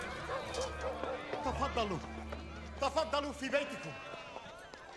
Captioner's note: continues speaking in arabic